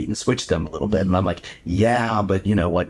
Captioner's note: chuckles